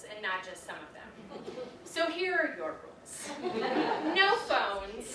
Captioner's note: audience laughs